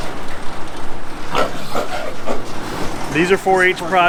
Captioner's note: machine whirling; pigs snorting